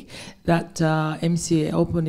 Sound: none

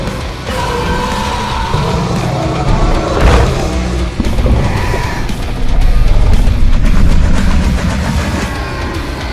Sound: Scorpius Rex attack sounds

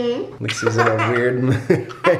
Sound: grunts; laughs

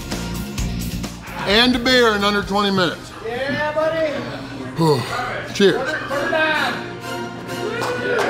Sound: crowd

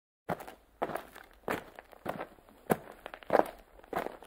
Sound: footsteps

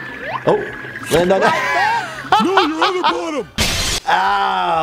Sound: laughter

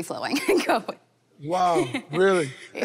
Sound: Katelyn laughing happily

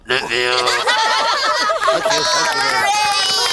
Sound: laughing

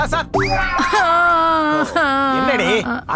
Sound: crying

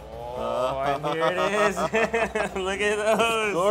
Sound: laughing

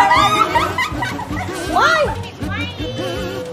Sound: laughing

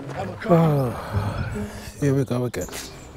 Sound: sighing

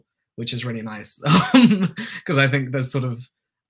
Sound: laughter

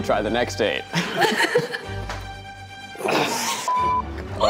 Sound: cast laughs

